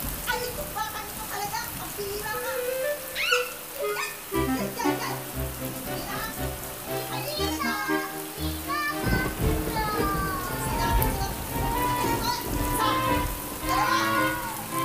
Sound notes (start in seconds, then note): 2.6 shrieking